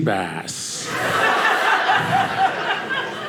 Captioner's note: audience laughing